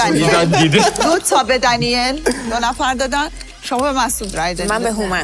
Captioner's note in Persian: خنده